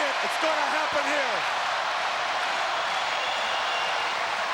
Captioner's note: crowd yelling